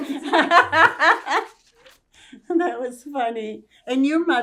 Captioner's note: laughing